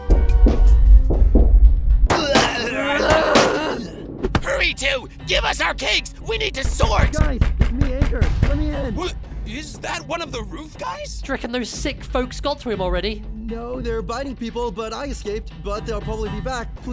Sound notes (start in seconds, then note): 0.4 rumblings; 6.6 knocking